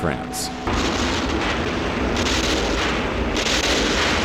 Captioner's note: explosions booming